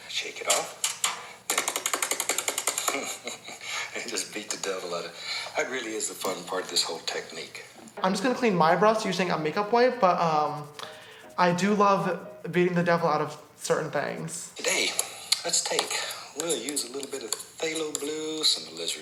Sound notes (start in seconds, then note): 1.4 thumping; 3.3 laughs